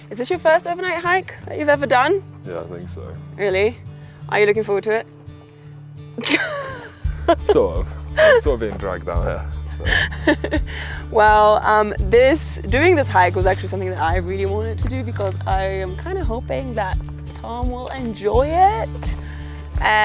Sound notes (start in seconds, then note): 6.2 laughs